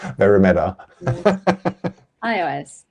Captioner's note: laughs